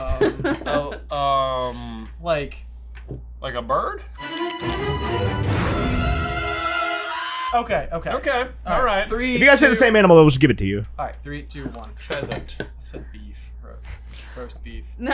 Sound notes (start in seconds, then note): 4.2 suspenseful music; 6.5 aaaaaaaaaaaaaaaaaaaaaaaaaaaaaaaaaaaaaaaaaaaaaagh